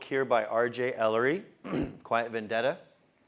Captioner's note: cough